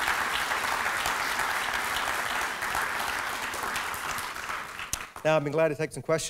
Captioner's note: applause